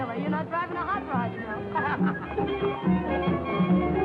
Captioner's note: Billy laughing; dance music